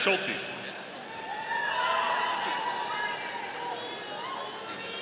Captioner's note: audience cheering